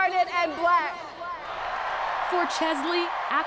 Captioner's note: crowd cheering